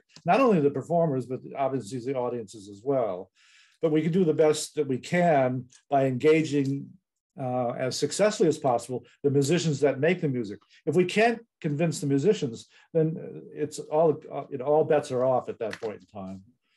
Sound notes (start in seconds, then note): none